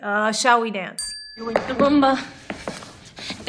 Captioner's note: bell dings